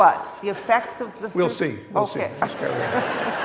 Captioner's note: laughs